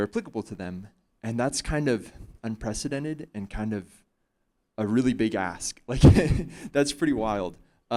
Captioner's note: chuckle